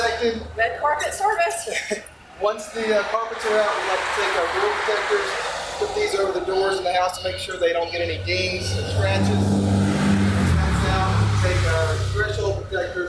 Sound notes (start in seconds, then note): 1.4 laughter